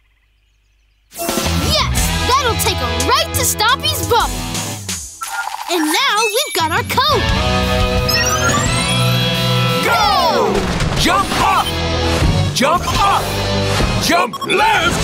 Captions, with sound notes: Yes! That'll take them right to Stompy's bubble. And now we've got our code. [powering up] Go! Jump up, jump up, jump left,